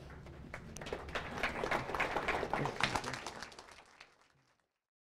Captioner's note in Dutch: Applaus